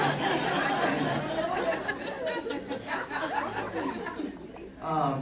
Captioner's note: audience laughing